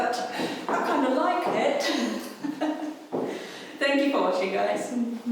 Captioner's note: laughing